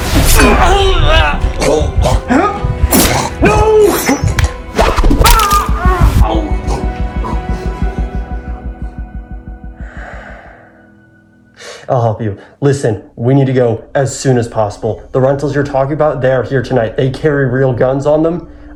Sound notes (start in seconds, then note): 1.6 choking; 2.5 exclaims; 4.8 screaming and gagging; 5.4 music softens; 6.8 heartbeat thudding; 10.4 sighs